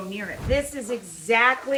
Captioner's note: whooshing